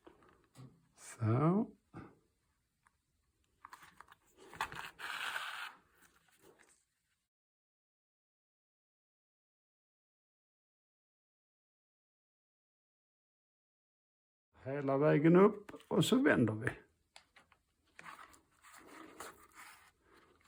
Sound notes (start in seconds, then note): 4.6 leather sewing continues